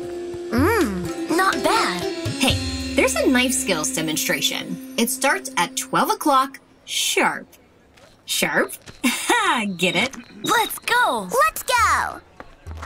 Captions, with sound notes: Mhmm, not bad. Hey, there's a knife skills demonstration. It starts at twelve o'clock sharp. Sharp? [chuckles] Get it. Let's go. Let's go.